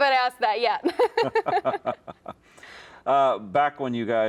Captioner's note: laugh